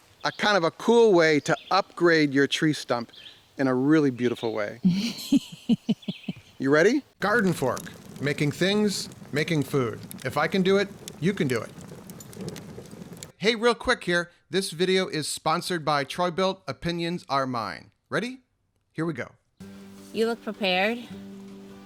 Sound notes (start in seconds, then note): 4.8 woman laughing; 7.8 fire crackling